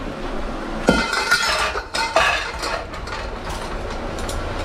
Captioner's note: wok clanging